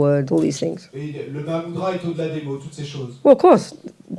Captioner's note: French